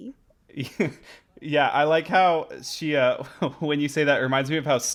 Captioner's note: laughing